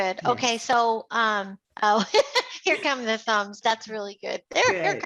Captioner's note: laughs